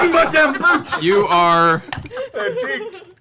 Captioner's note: laughter